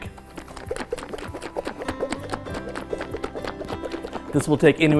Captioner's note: liquid sloshing